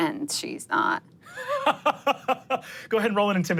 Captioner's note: laughs